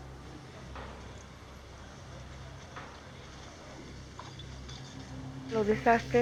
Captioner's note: sounds of debris removal